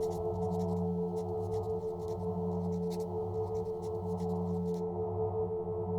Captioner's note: pen on paper writing sound